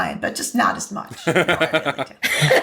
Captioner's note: laughter